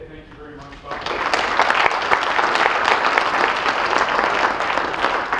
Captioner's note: audience applauding